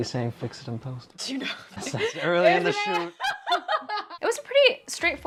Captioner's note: laughter